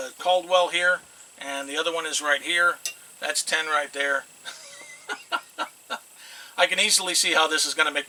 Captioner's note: laughs